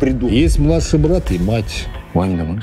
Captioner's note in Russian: Закадровый голос